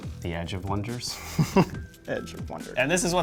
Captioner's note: laughs